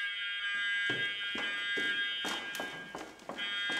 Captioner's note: alarm resounding